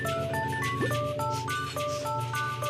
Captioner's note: sniffs